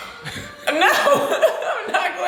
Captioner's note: laugh